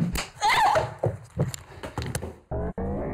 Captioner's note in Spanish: grita